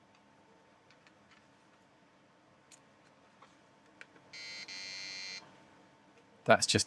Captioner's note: beeping